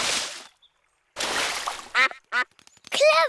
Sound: quacks

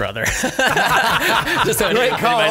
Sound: scattered laughs

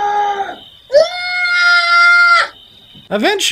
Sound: screaming; more screaming

